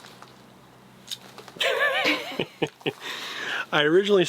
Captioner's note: laughing